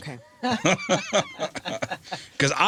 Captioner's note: laughing